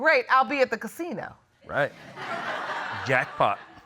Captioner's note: audience laughing